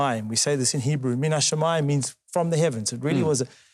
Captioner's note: speaking Hebrew; speaking Hebrew